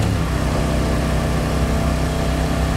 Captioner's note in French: moteur vrombissant